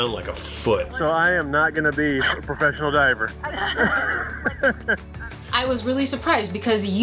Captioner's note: chuckles